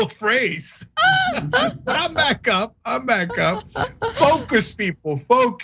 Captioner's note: laugh